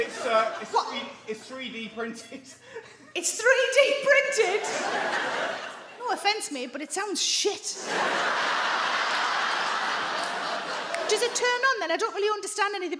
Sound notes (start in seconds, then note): 7.8 audience laugh